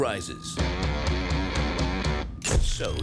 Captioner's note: siren wailing